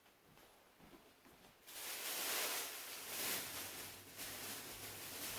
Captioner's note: plastic bag rustling